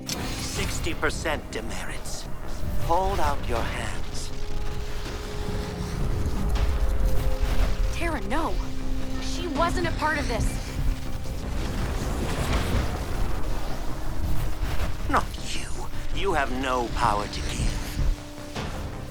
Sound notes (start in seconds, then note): 5.1 magic crackles; 11.5 suspense music; 13.1 magic crackles